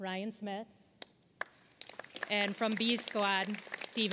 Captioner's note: applause